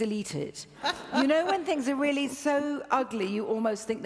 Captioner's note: laughs